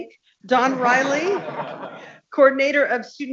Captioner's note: people laughing